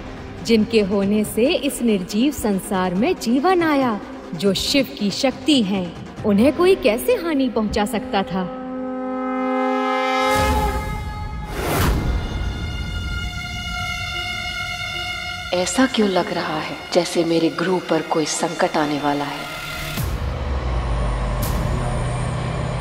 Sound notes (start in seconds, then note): 8.5 conch blows